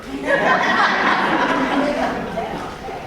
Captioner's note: audience laughs